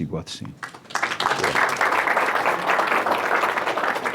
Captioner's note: applause